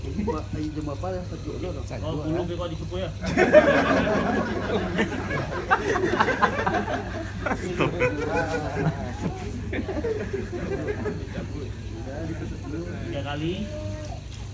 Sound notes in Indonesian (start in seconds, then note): 3.2 Jama'ah tertawa